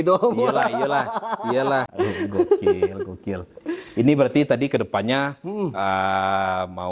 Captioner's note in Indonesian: tertawa